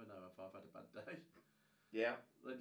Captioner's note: laughing